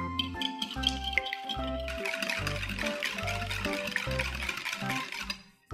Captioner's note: whisking~~~